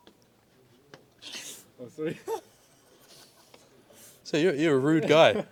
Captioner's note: laughs